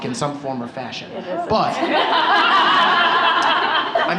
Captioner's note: laughter